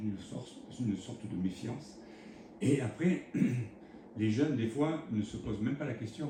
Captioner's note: raclement de gorge